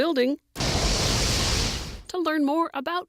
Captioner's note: eruption sounds